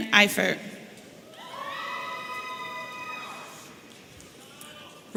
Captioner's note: audience cheering